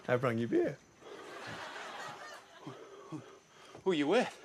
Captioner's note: laughter